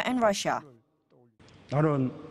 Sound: Korean

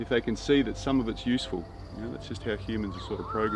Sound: birds and insects chirp; mellow electronic music

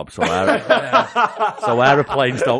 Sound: laughter

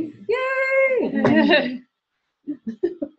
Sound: laughter

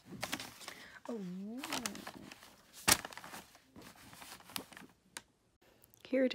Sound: paper rustles

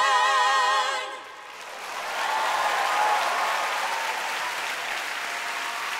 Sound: cheers and applause

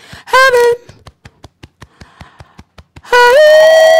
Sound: beating Chest

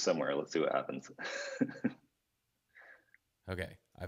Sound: laughs

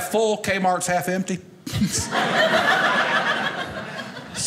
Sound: audience laughing

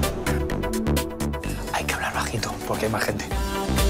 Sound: in a low voice

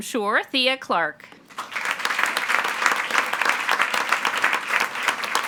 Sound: attendees applauding

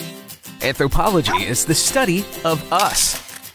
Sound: dog barks

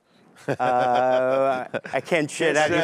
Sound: laughing

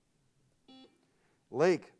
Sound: buzzer sounds

